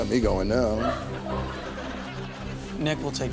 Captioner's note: audience laughs